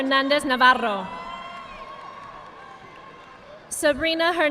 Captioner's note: audience clapping